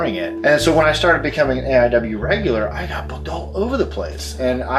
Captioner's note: whispers